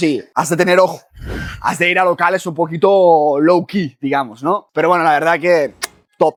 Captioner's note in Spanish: resoplido